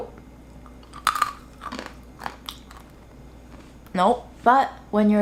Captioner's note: nut crunching